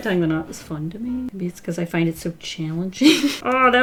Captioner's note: laughs